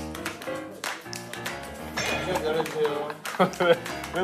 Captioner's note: Tertawa